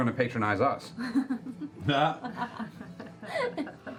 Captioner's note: laughter